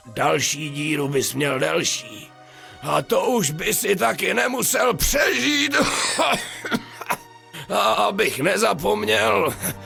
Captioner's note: cough